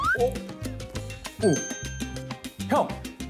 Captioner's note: surprised